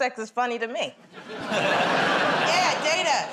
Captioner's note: laughter